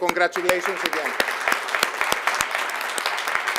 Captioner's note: applause